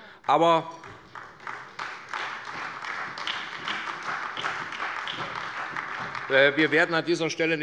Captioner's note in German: Beifall bei Abgeordneten der SPD